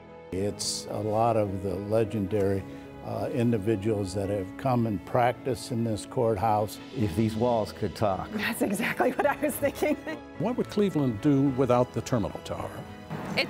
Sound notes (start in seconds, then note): 8.4 laughing